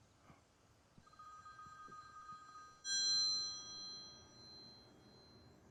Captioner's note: phone continues ringing